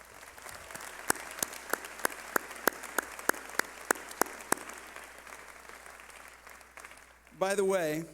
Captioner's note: clapping